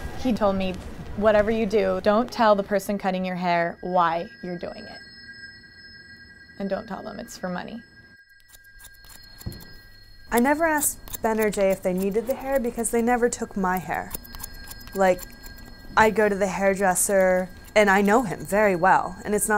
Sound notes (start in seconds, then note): 8.1 cutting sounds